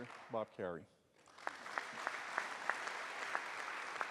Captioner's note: applause